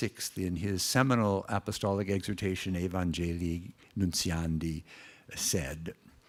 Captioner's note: foreign words